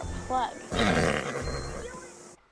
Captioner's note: whinnies